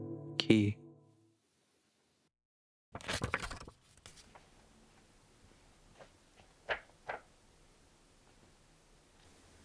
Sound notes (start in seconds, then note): 2.9 page Flip